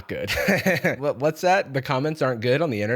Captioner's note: laughs